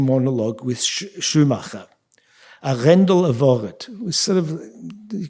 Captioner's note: speaking yiddish